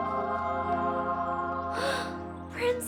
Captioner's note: gasps